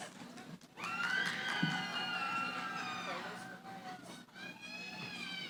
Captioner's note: cheering